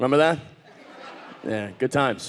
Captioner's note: audience laughing